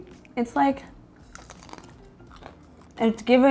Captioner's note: both crunching bacon